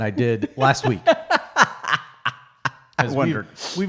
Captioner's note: laughing